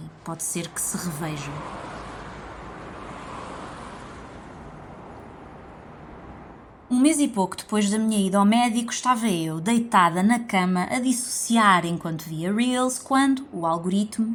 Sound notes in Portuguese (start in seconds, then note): 3.8 som de carros a passar